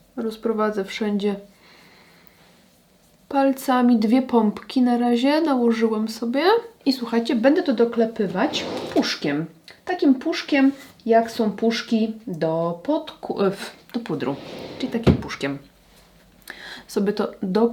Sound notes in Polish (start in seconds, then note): 14.3 parsknięcie